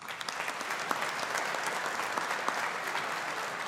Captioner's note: audience applauding